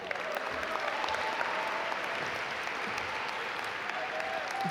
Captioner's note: audience applaud